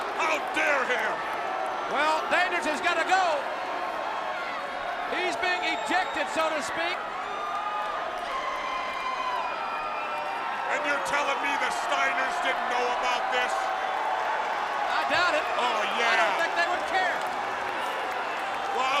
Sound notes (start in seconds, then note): 7.4 crowd cheering